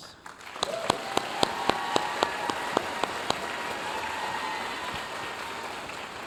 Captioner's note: audience cheering and applauding